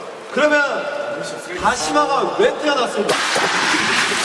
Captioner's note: rubbing